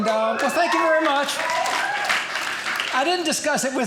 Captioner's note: audience cheering